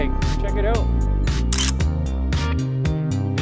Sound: camera click

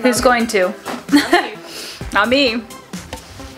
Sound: laughs

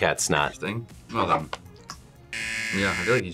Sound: buzzer

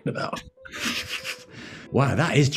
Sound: sniggering

